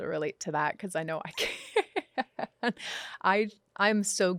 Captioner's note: laughs